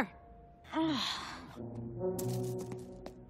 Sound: groaning

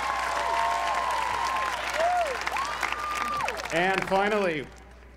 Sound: applause

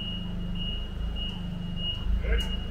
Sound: forklift beeping

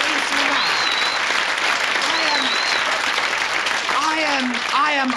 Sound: audience applauds

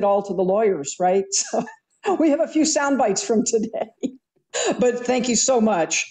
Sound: chuckles

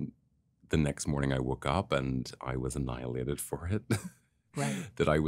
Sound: chuckles

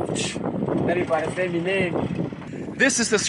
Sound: speaking Portuguese

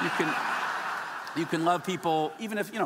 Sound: audience laughing

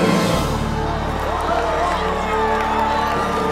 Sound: all cheering

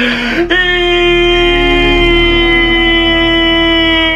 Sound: yelling

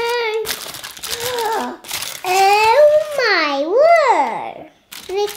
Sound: gasps

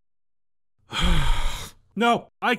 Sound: sighs heavily

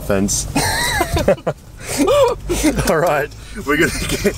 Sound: both laughing

